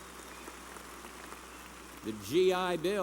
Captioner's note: applause